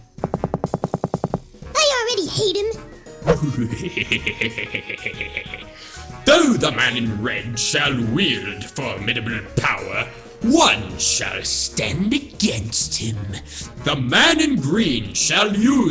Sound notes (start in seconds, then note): 3.3 laughs